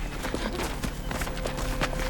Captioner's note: chuckles